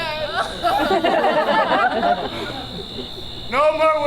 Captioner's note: audience laughs